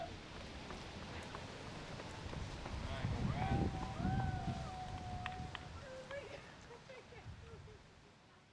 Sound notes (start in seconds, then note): 3.5 family cheering